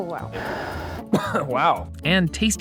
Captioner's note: heavy breathing; coughing